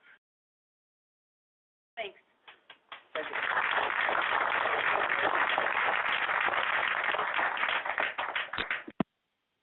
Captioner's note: clapping